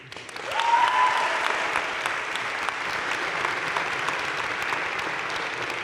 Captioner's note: crowd cheering and applauding